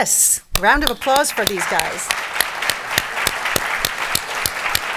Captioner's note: audience clapping